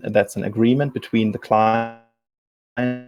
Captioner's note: distortion muffles speaker